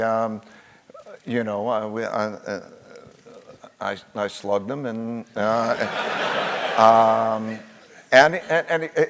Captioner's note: laugh